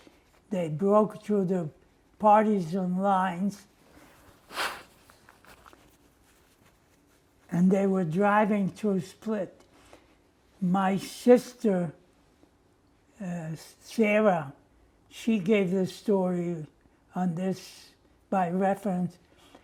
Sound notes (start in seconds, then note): 3.7 wiping nose